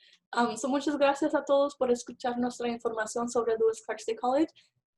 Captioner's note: speaking Spanish